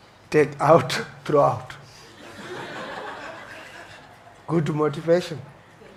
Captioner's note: audience laughs